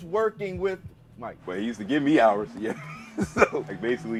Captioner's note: laughing